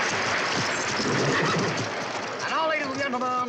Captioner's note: horse snorts